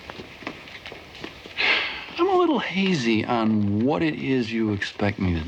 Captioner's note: sighs